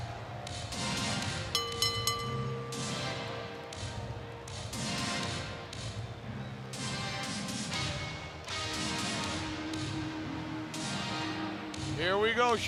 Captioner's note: bell ringing